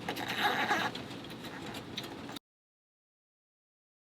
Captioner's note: twisting sound